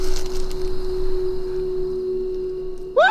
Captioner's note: bug noise